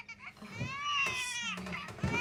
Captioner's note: baby cries